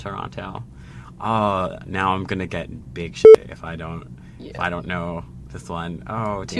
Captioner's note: beep